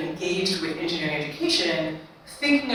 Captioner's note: none